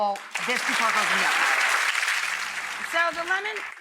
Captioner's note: audience applauding